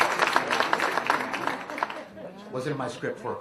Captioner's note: applause; laughter